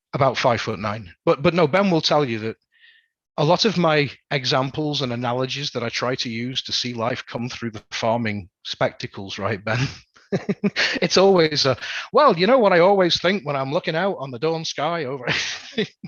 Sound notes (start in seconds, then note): 9.6 laughs